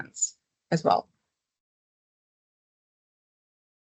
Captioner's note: silence